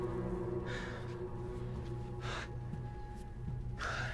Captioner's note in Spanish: Respirando pesadamente